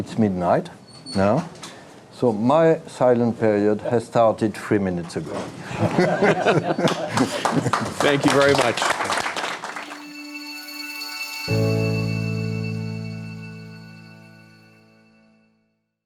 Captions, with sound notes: it's midnight now so my silent period has started three minutes ago. (people laughing) (audience clapping) - Thank you very much. (inspirational music)